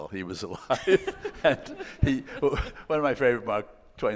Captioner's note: laughing